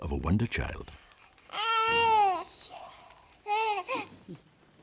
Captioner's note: baby gurgling